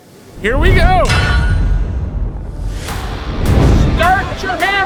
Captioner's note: logo thumping